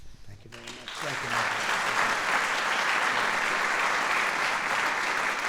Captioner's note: applause